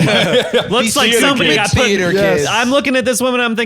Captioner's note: laughs